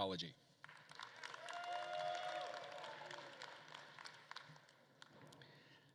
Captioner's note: attendees applauding and cheering